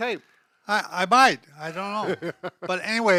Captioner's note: chuckling